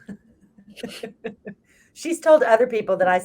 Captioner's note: both laughs